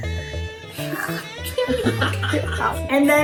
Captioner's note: upbeat music; both laughing